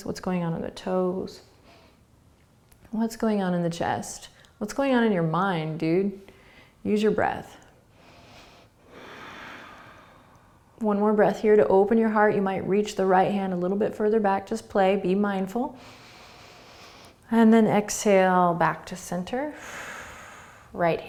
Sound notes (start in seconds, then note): 7.9 breathing; 15.9 inhaling; 19.5 exhaling